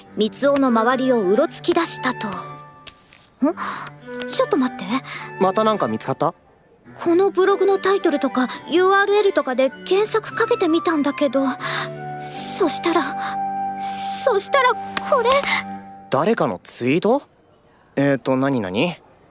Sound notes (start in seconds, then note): 11.6 gasp